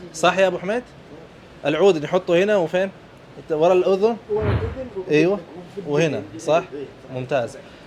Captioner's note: talking in Arabic